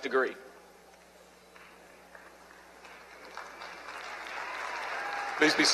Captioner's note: applause